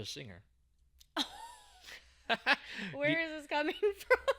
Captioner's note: laughing